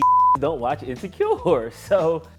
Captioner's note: beep